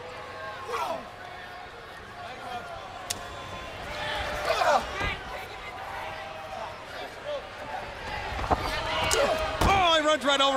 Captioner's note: crowd chatter